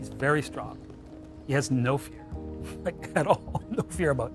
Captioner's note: laughs